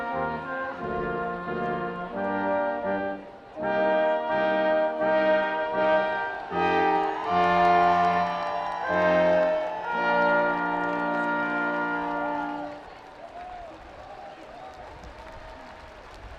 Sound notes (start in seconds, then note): 3.7 orchestral music crescendos; 8.3 students cheering and screaming; 13.0 audience applauding